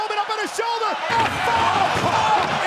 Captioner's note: body thudding